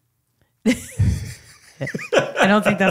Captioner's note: laughing